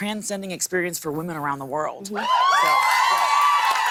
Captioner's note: cheers and applause